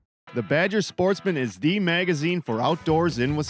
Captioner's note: voiceover